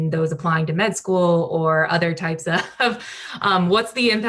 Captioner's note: laughs